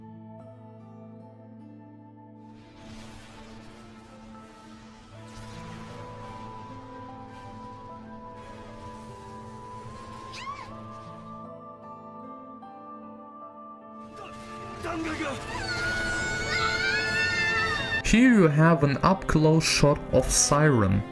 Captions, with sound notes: (dramatic music) (screams) Here you have an up close shot of Siren.